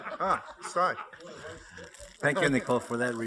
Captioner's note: laughter